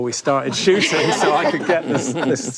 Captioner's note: panel laughs